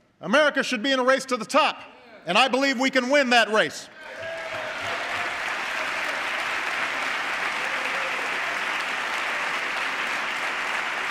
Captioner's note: applause